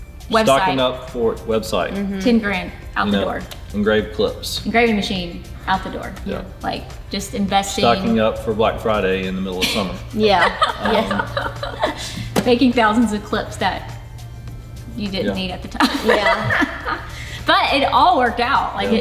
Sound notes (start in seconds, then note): 10.1 laughs; 15.8 laughs